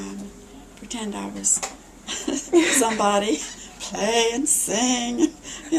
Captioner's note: laughs